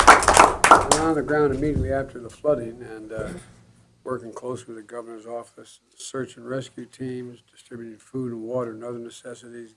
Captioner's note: applause